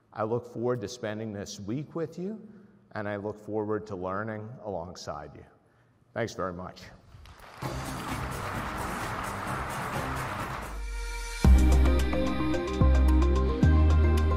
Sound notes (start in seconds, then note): 7.1 crowd clapping; 7.6 upbeat music